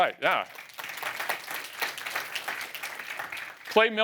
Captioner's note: applause